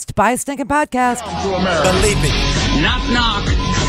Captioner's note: voiceover